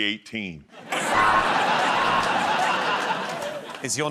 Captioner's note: laughter